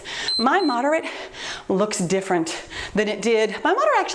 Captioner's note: timer beeps